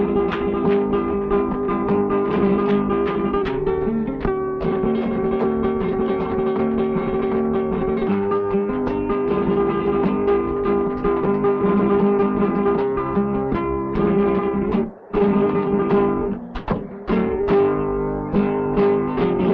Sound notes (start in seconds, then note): 0.2 lively Spanish guitar music; 4.5 heels clacking